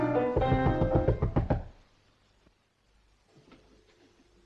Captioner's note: knocking at door